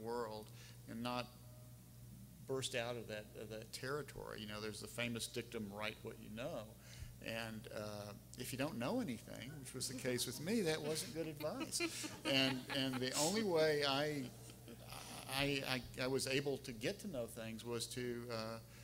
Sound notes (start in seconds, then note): 10.4 laughing